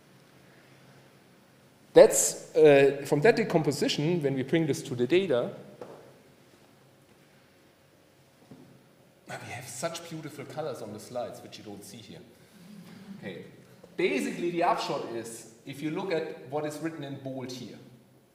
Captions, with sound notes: That's, from that decomposition, when we bring this to the data... We have such beautiful colors on the slides, which you don't see here. (attendees chuckling) Okay, basically the upshot is, if you look at what is written in bold here.